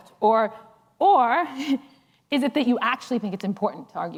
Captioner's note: laughs